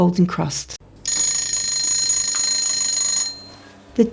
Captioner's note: timer rings